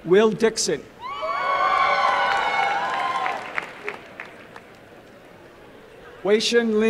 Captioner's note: applause and cheering